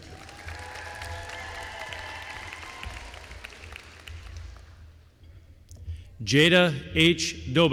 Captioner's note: applause